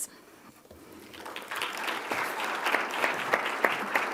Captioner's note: applause